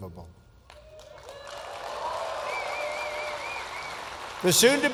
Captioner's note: applause